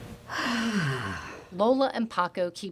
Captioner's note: sighs